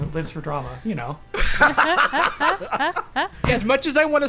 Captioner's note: laughing